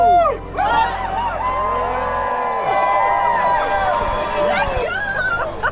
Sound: crowd cheering

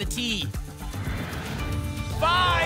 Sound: whoosh

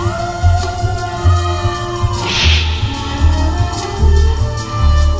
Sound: none

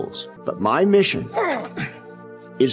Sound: congregant grunts

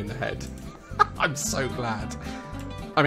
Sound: laughs

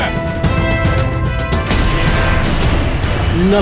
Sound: gun shot

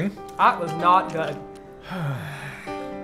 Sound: deep sigh

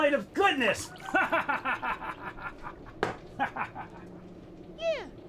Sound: maniacal laughter

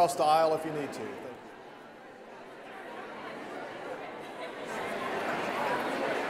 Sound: congregation chattering

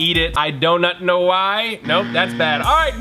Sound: buzzer

